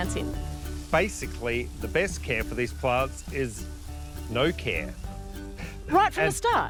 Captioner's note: chuckles